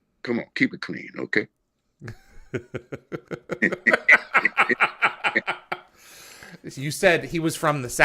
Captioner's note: both laughing